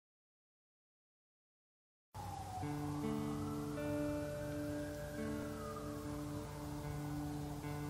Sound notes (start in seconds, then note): 3.7 distant siren wailing